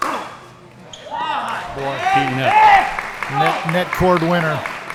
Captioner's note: applause